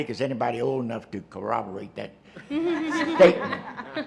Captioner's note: laughter